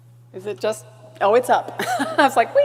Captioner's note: laughs